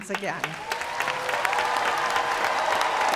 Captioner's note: cheers and applause